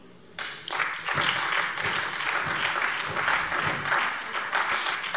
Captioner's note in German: Beifall SPD und vereinzelt AfD